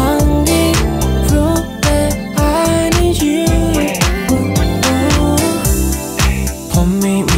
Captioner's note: ooh, ooh